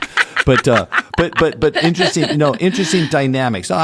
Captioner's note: laugh